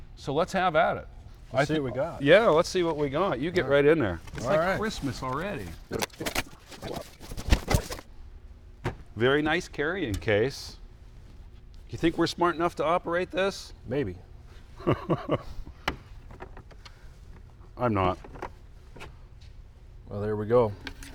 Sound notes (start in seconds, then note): 5.5 fast forward chattering; 14.8 laughs